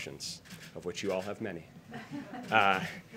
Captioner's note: laughter